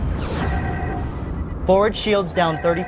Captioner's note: explosion